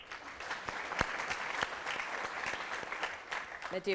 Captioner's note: applause